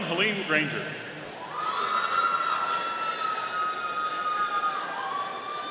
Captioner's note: audience cheering